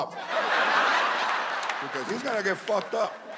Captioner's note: audience laughs